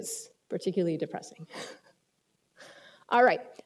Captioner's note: laughs